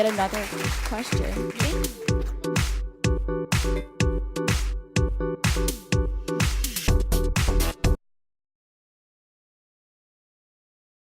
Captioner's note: applause